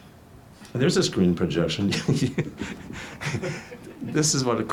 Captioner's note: everyone laughs